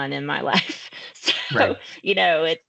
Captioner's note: chuckling